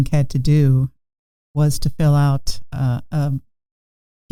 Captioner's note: none